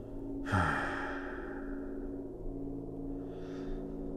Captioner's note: Cornelius sighing